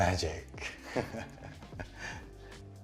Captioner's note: chuckles